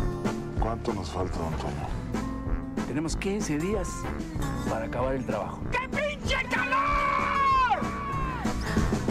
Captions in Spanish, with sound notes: ¿Cuánto nos falta, don Toño? Tenemos quince días para acabar el trabajo. (GRITA) ¡Qué pinche calor!